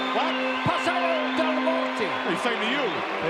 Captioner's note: Lord Alfred speaking in foreign language